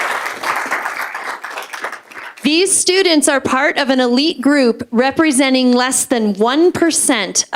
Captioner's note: applause